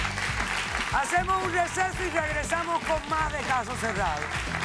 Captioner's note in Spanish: Aplausos